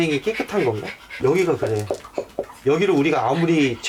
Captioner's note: the sound of tapping